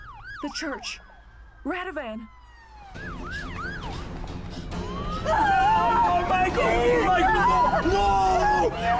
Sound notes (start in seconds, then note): 2.7 siren wailing continues; 2.8 dramatic music; 7.2 Zora crying